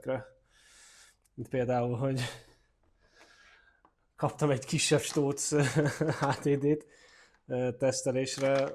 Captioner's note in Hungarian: nevetés